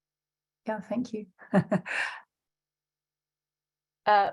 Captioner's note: chuckles